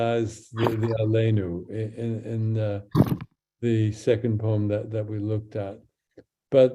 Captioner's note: speaks in Hebrew